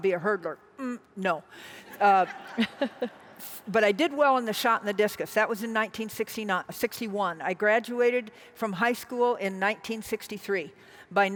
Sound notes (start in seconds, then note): 1.9 audience laughs